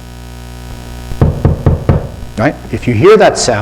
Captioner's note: knocking sound